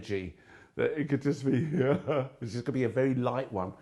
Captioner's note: laughs quickly